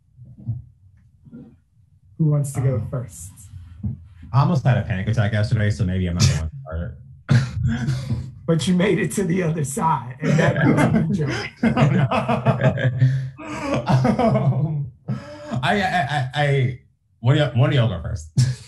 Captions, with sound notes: Who wants to go first? - Almost had a panic attack yesterday so maybe I'm not. - But you made it to the other side. (Laughs) One of you go first - Okay, I'll kick it off.